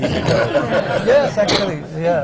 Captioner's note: laughter